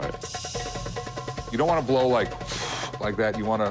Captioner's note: blowing air softly